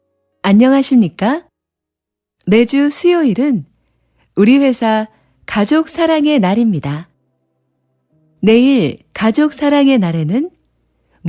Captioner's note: Korean audio